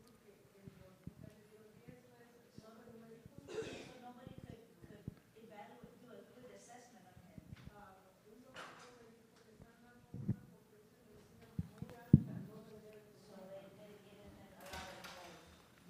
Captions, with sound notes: (woman speaks in foreign language) Nobody could evaluate, do a good assessment of him. (woman speaks in foreign language)